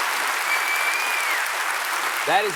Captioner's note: cheers and applause